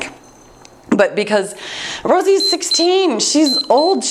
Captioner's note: timer beeps